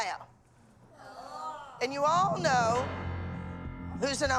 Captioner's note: groaning